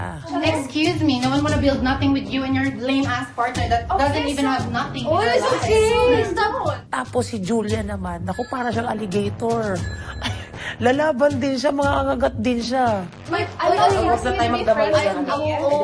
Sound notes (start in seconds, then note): 10.0 chuckles